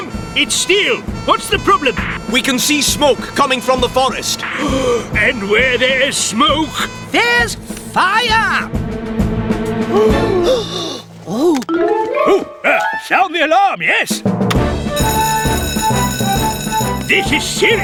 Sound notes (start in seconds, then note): 4.5 gasp!; 14.9 alarm Blares; 15.3 click!; 16.3 heroic Music